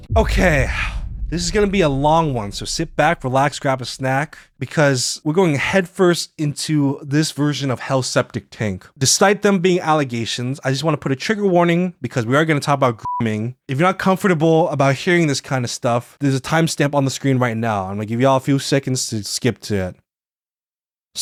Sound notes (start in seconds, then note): 13.1 beeps